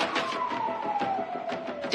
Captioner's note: sirens wailing